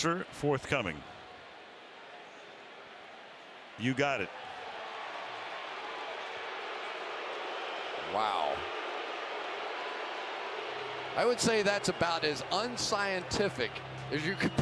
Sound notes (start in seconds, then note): 6.2 booing